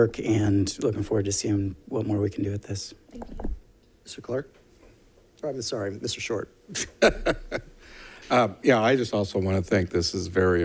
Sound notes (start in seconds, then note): 6.7 chuckling